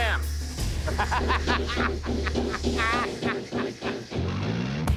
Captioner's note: laughs